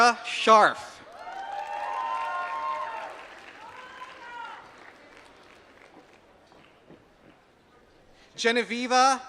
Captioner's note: applause